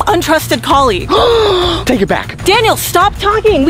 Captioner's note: gasping